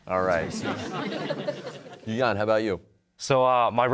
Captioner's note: audience chuckling